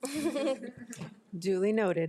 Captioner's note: board of trustees chuckle